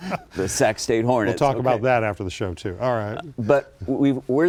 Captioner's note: laughs